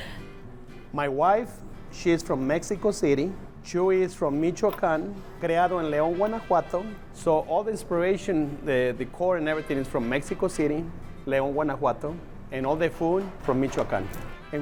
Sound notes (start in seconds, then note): 5.4 in Spanish